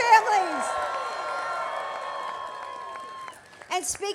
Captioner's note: applause